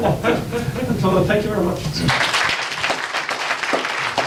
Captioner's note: audience applauds